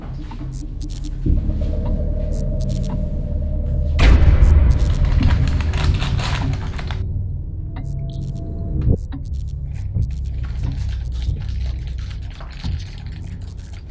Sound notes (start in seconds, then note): 2.0 foreboding music; 4.8 packaging rustles; 5.8 eerie music